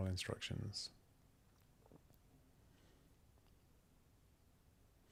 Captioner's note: silence